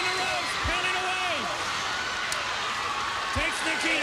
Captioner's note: crowd cheering